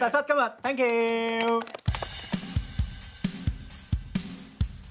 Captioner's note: clapping happily